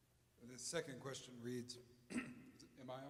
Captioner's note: clears throat